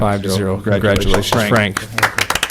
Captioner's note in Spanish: Aplausos